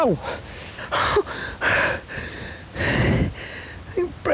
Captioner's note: richard whimpers